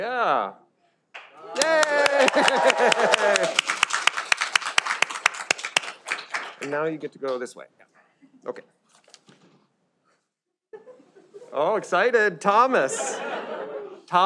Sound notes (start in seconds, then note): 1.2 audience applauds and cheers; 12.8 audience laughs